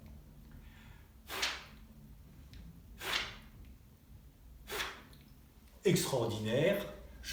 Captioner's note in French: souffle